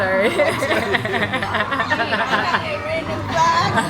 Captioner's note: laughing